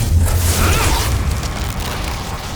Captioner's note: magical explosion